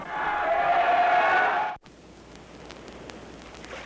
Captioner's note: cheering